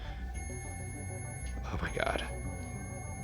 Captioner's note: continuous beeping